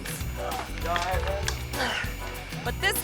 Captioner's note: groans